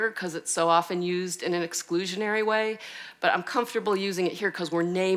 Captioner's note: none